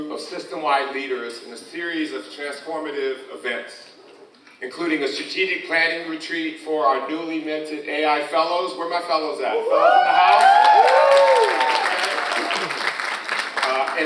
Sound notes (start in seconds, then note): 9.6 audience cheers; 12.9 audience applauds